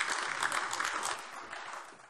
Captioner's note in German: Beifall AfD